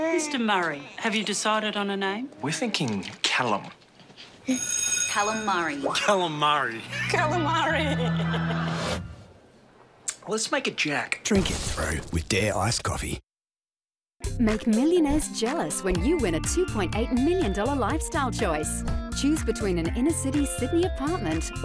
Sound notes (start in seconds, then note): 0.0 baby laughs; 4.5 bell rings; 5.9 laughs